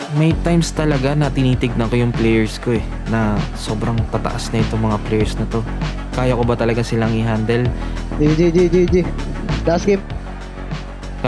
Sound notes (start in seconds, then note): 8.2 over comms; 9.8 in English